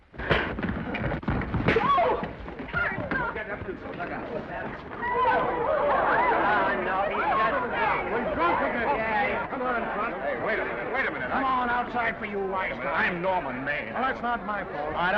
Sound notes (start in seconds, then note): 0.2 elbow thuds; 1.2 fist thuds; 3.2 all chattering